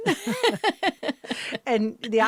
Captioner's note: interviewer and Zoe laugh